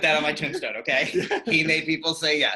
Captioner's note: laughter